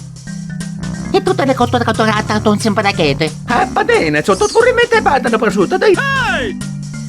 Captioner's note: italian gibberish